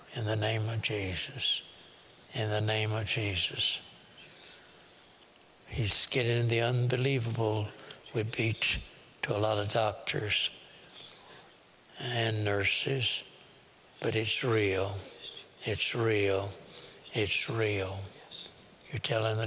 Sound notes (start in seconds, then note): 3.7 whispering; 18.4 whispering